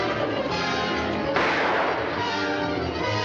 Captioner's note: gunshot